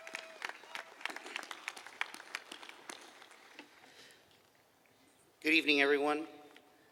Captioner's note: applause